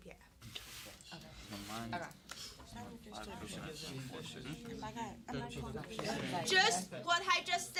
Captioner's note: students murmur